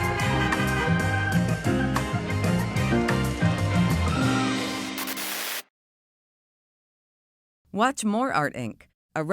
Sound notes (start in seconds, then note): 0.0 horns honking; 5.0 static crackling